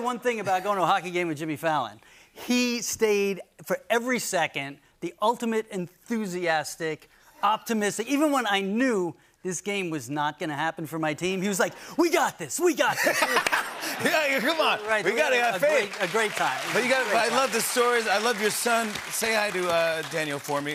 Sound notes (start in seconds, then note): 12.9 laughter; 16.5 cheers and applause